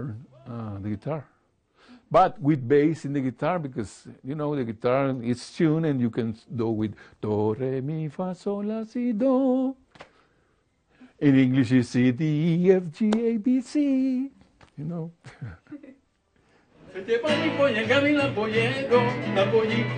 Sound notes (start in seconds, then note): 15.2 laughing; 16.9 lively Spanish music